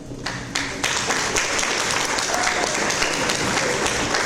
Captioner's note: audience applause